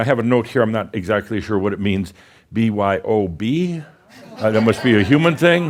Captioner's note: some chuckles